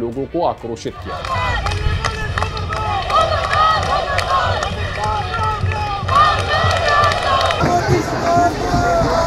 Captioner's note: slogans being chanted